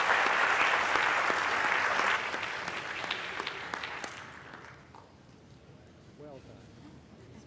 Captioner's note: applause